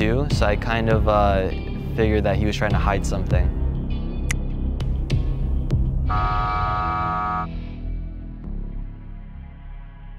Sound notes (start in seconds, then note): 6.0 buzzer buzzing